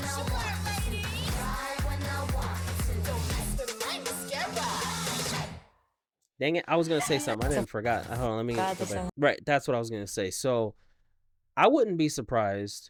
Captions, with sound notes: (speaking in foreign language) Dang it, I was gonna say something, I didn't forgot. I don't know, let me get you something. Right, that's what I was gonna say. So I wouldn't be surprised.